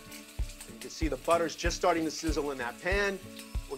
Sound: butter sizzling

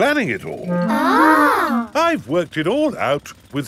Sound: children gasp in awe

